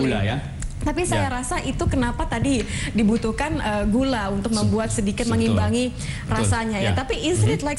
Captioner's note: non-english speech; non-english speech